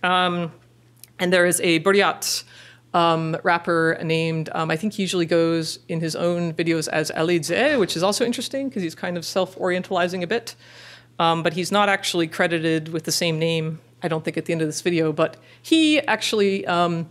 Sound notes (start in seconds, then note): 2.2 foreign language